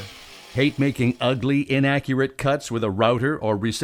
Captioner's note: voiceover